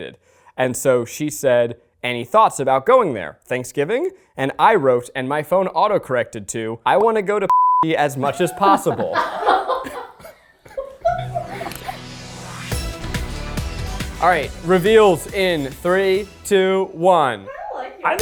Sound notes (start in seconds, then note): 9.1 crew laughs; 11.0 upbeat music